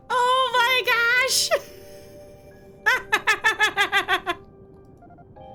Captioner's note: laughing